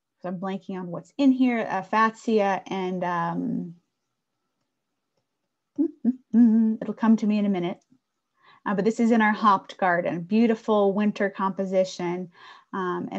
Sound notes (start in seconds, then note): 5.8 humming